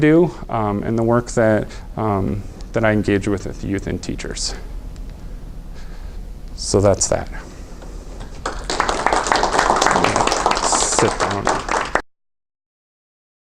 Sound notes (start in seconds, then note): 8.2 audience applauding